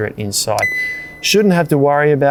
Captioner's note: fridge beeps